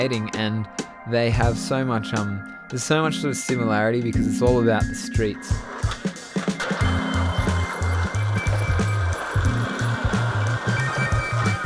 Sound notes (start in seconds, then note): 5.6 skateboards rumbling